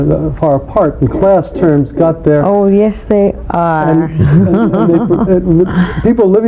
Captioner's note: laughing